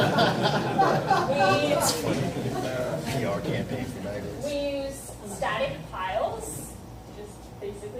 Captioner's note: laughter